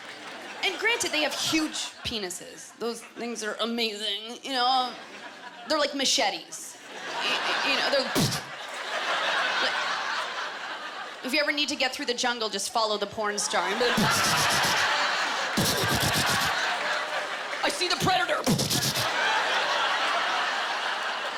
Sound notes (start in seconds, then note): 14.9 imitating machinegun fire; 18.3 imitating machine gun fire; 18.4 laughter